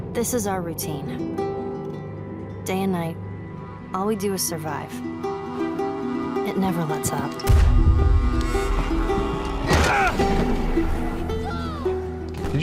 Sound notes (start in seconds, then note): 7.4 gun fires; 9.2 Joel grunts